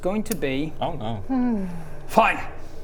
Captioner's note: whimper